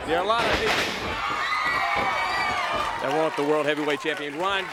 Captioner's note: crowd cheering